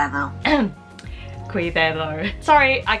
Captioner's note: clears throat